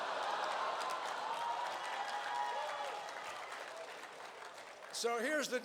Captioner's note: laughter and cheers